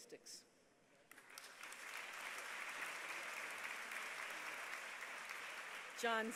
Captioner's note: applause